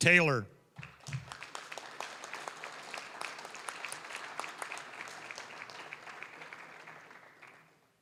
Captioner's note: applause